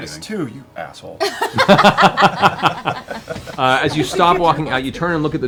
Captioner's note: laughter